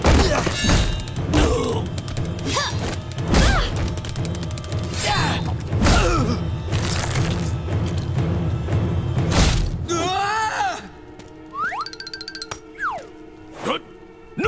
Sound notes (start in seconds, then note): 1.3 grunting; 4.3 grunting; 9.9 screaming